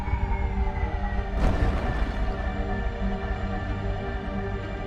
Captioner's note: ship thuds